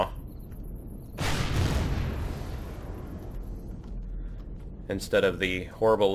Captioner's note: plasma firing; explosion